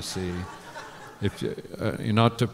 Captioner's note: laughter